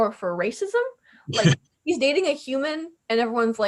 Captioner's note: laughs